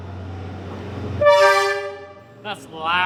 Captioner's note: train horn